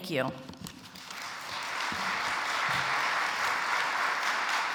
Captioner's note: audience applauds